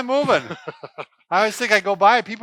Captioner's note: laughs